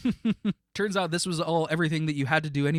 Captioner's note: laughing